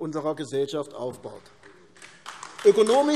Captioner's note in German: Beifall AfD